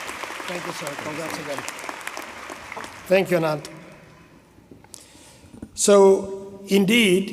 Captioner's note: applause